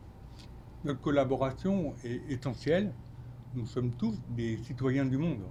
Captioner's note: speaking French